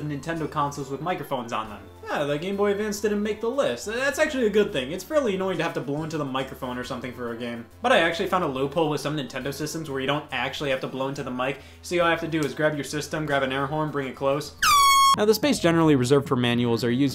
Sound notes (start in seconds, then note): 14.6 air horn honking